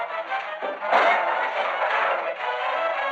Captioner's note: clank